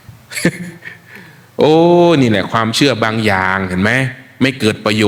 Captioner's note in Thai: เสียงหัวเราะ